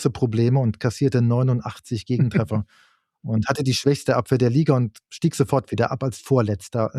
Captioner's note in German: gelächter